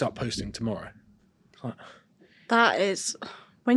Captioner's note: sighs